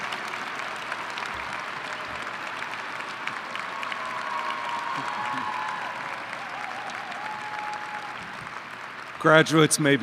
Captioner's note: applause